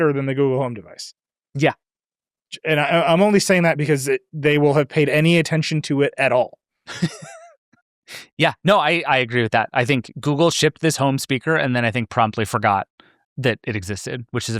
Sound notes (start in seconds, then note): 6.9 laughs